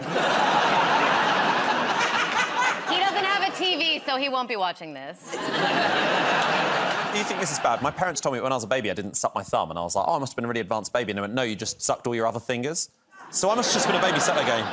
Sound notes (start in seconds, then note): 0.0 laughter; 5.2 laughter